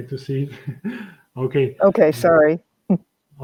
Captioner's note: laughs